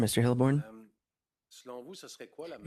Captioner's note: speaking French